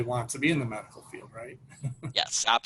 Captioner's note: laughs